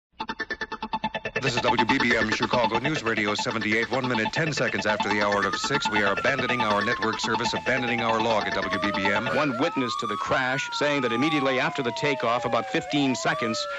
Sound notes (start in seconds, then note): 1.7 announcement on the radio